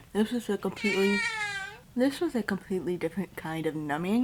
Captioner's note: cat meows